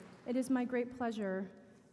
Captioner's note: applause